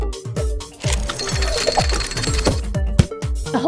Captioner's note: mechanical leg extends